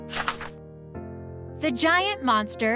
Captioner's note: paper crinkling